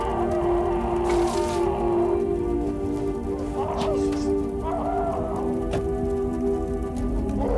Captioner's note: fire crackling; John screaming